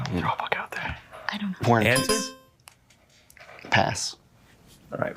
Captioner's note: bell dings